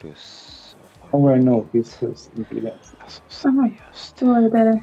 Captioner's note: wispering; wispering